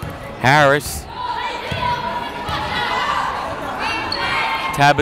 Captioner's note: yelling